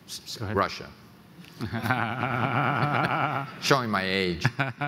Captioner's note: laughs